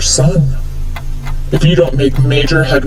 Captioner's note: clock ticking